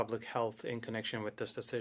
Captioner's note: speaking French